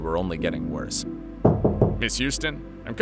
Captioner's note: door knocking